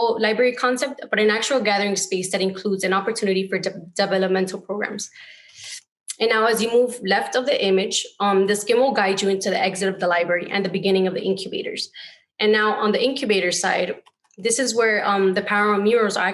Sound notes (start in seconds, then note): none